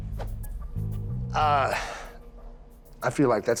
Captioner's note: sighs